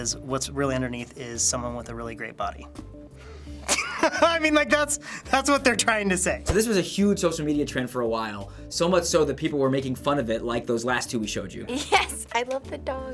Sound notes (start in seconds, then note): 3.6 laughs